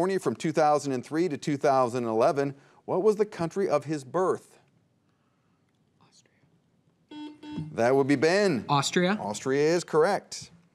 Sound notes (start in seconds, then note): 7.1 buzzer beeps